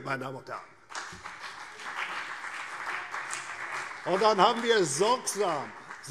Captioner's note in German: Beifall CDU und vereinzelt BÜNDNIS 90/DIE GRÜNEN